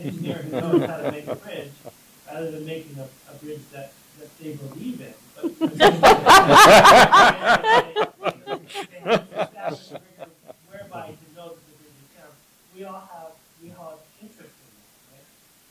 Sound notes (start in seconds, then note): 5.4 laughter